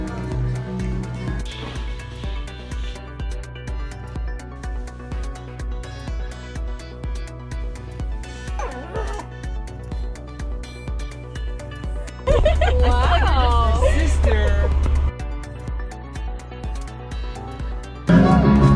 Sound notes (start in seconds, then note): 8.4 whimpering; 10.6 upbeat music; 12.2 laughing; 15.4 upbeat music